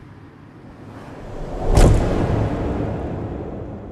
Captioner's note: thud